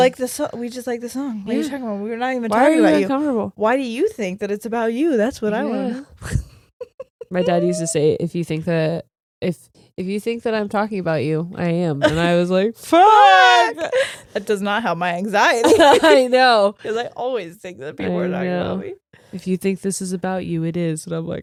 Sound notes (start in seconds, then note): 6.2 laughs; 15.6 laughs